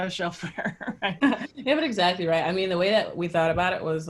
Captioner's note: laugh